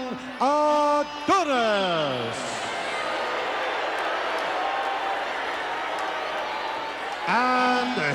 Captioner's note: applause